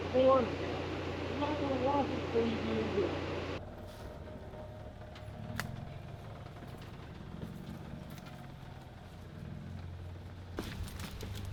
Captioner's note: engine revving